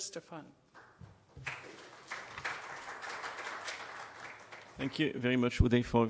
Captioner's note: audience applauding